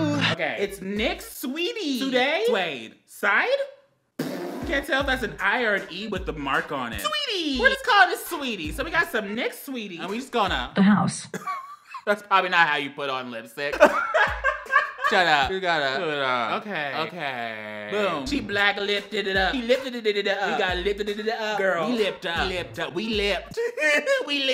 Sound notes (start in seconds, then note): 13.7 laughs; 23.2 laughs